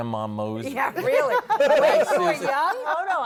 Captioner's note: laughter